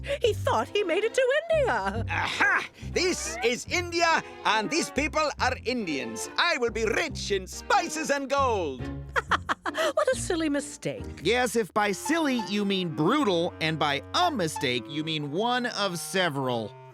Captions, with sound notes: He thought he made it to India. Aha, this is India and these people are Indians. I will be rich in spices and gold. (laughs) What a silly mistake. Yes, if by "silly," you mean brutal, and by "a mistake," you mean one of several.